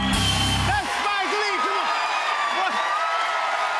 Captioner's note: cheers and applause